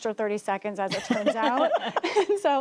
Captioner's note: laughter